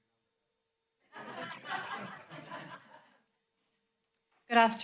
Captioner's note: laughter